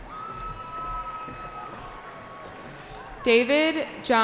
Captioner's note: cheering